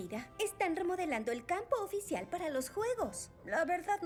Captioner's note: none